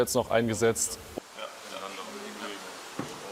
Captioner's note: snippets of conversation